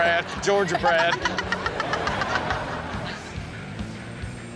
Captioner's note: laughing